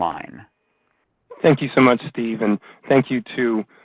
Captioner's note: voiceover